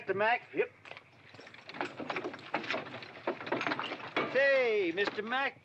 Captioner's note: carriage rattling